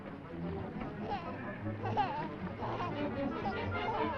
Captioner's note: baby babbling